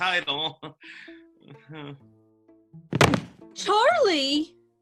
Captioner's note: Sound of a body crumpling to the floor as CHARLIE faints